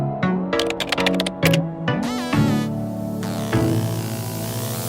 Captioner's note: gentle upbeat music; keyboard clicks